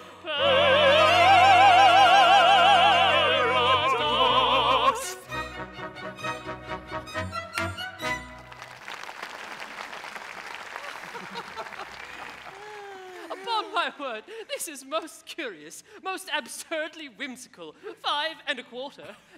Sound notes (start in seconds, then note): 8.0 audience applauds; 10.8 laughing